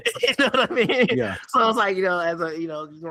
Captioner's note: laughing